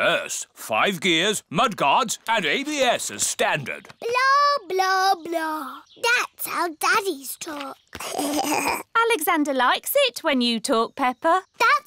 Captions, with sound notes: Yes. Five gears, mud guards, and ABS as standard. Blah, blah, blah! -That's how daddies talk. -(ALEXANDER GIGGLES) Alexander likes it when you talk, Peppa.